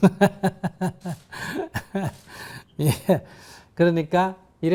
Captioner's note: laughter